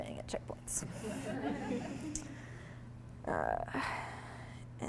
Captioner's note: audience laughing